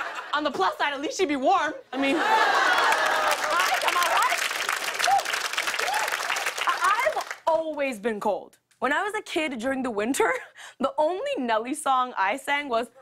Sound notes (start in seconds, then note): 0.0 laughter; 2.0 laughter and applause